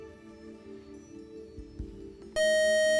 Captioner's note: time out buzzer